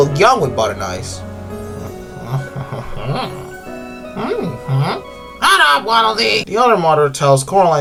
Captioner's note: Horny sounds and to Waddle shouts